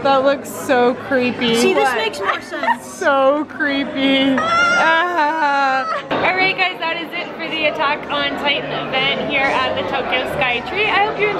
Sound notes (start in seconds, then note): 4.3 yelping